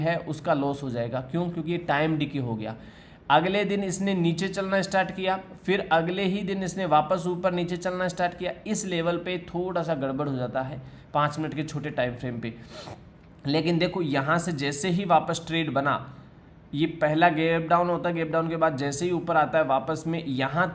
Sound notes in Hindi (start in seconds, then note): 12.6 नाक से की जाने वाली आवाज़